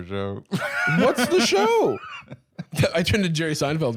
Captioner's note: laughs